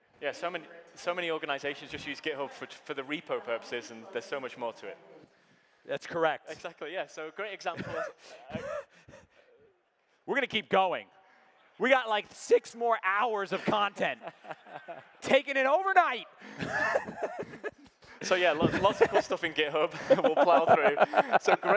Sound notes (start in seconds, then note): 7.8 laughing; 14.0 laughing; 16.4 laughing